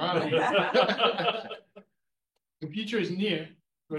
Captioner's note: all chuckles